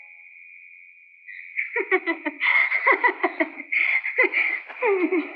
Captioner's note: Laughing